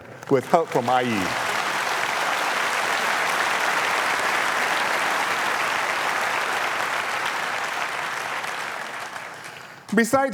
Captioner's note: applause